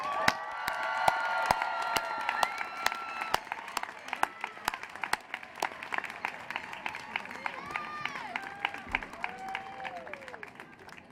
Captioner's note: cheering